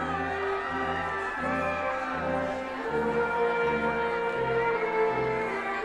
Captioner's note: attendees continue cheering